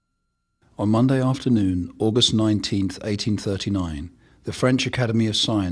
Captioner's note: voiceover